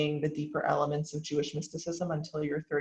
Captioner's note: none